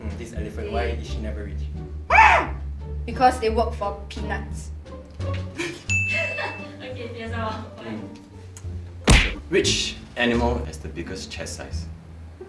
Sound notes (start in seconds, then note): 2.1 elephant noises